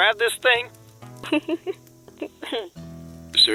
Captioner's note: chuckling